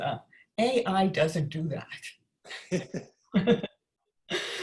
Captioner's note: laughs